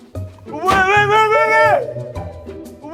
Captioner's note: bang